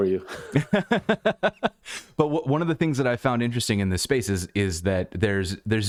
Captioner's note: laughter